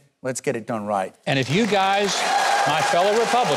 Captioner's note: applause